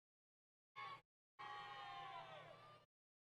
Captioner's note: crowd Yelling